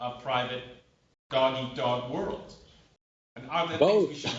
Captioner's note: laughter